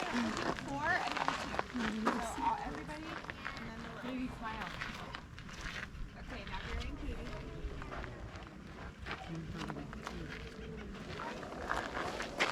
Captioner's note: others chattering